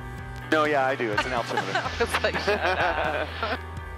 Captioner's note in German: beide lachen